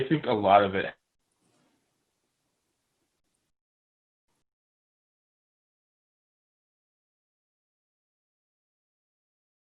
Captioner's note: audio cut